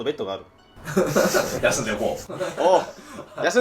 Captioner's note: laughing